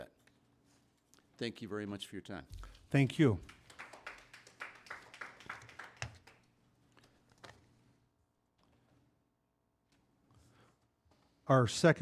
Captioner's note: applause